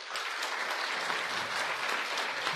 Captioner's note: applause